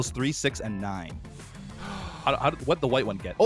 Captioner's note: gasps